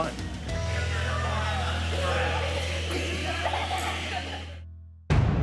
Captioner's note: kids chattering